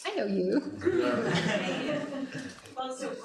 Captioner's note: laughter